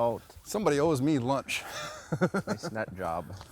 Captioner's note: laughs